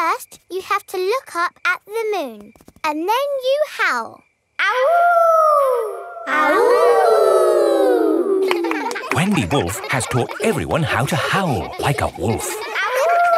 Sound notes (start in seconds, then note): 4.8 howling; 6.7 kids howling